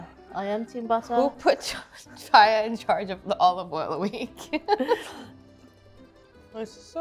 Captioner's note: laughing